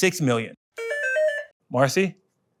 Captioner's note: phone ringing